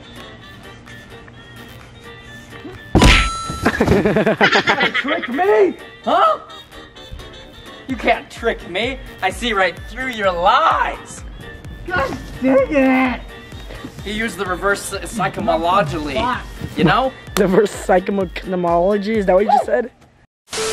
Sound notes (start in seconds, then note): 0.1 upbeat music; 3.2 successful ding; 3.6 laughing